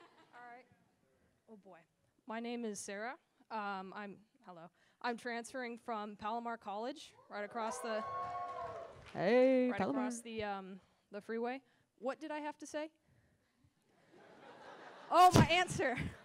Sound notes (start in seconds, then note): 7.5 cheering